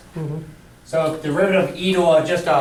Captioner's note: voiceover